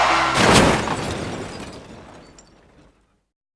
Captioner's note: crashing sound